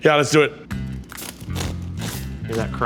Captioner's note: bread crackles